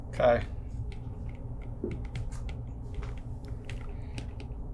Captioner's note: stylus tapping